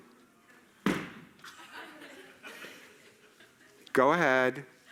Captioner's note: audience gasping